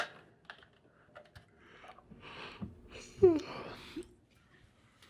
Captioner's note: batteries clicking